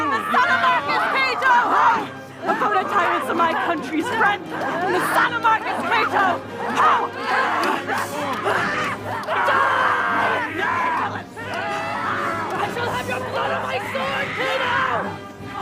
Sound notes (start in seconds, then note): 7.6 soldiers yelling